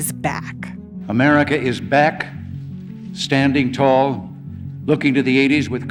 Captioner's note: soundbite of archived recording